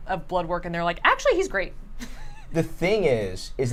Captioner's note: laughs